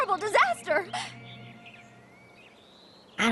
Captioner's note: birds chirping